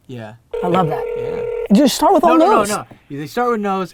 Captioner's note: phone ringing